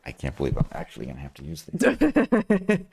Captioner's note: laughing